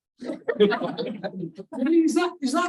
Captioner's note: audience laughs